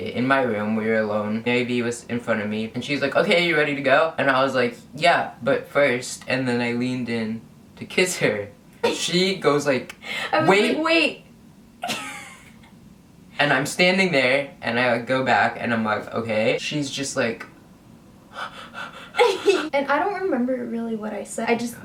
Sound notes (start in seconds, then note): 18.3 pants heavily